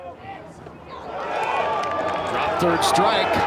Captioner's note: crowd cheers